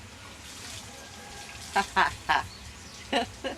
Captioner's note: laughing